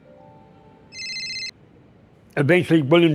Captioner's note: phone ringing